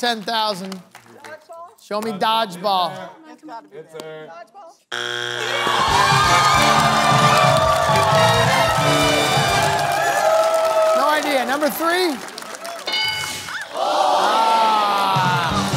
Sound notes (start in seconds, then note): 6.6 buzzer sounds; 8.3 cheering/applause